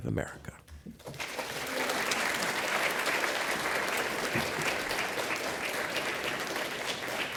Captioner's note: applause